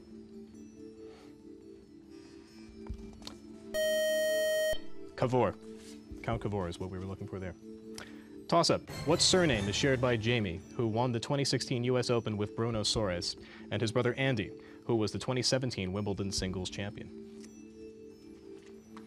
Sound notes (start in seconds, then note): 3.7 time-out buzzer